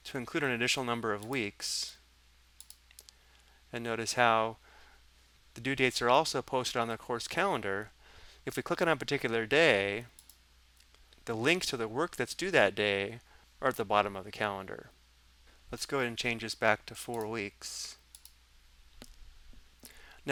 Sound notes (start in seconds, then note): 10.1 mouse clicking